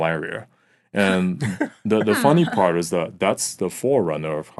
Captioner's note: laughing